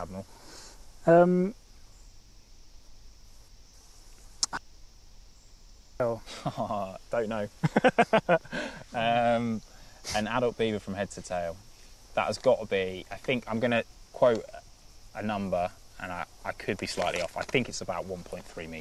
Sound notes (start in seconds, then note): 0.8 break in transmission; 7.5 laughs